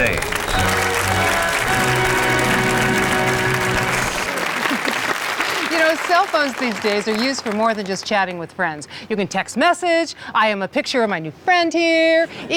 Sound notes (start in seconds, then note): 0.0 dramatic musical fanfare; 2.3 applause from the audience